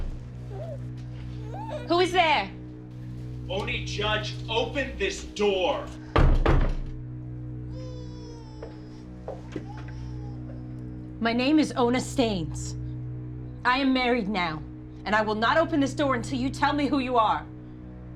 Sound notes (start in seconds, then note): 5.8 knocks